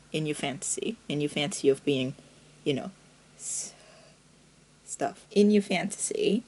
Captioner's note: breathes